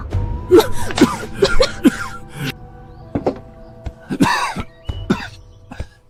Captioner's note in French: Tousse